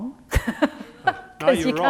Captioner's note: laughs